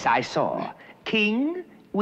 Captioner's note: none